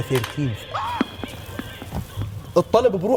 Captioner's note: gasps